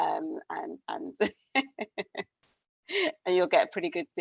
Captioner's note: laughs